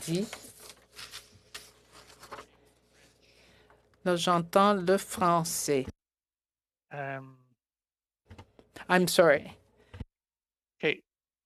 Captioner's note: speaking French